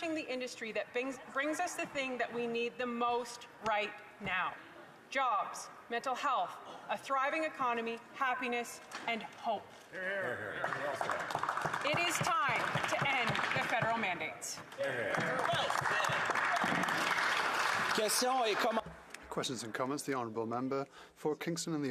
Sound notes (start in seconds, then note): 16.8 some applause